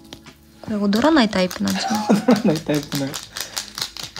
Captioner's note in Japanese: 笑い